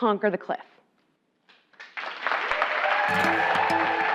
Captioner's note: applause